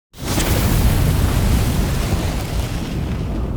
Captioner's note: fire roaring